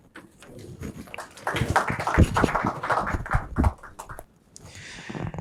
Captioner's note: applause